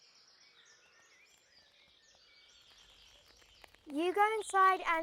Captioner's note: birds chirping